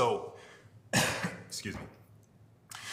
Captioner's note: coughs